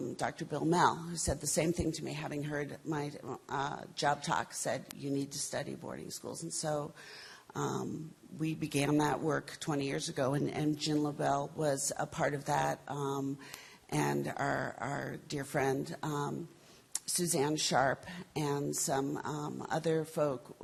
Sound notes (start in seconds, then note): none